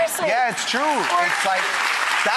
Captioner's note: applause